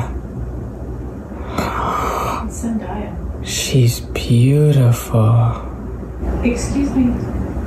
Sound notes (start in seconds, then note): 1.4 gasps